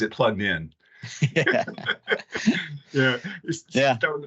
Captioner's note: laughing